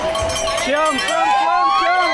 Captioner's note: family cheering